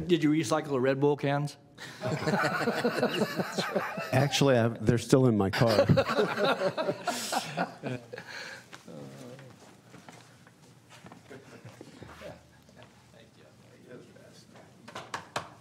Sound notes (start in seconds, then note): 5.5 laughter; 12.2 laughter